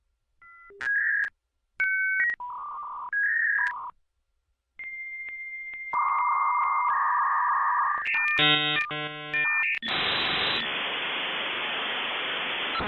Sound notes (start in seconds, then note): 0.8 dial-up modem connecting; 9.8 modem static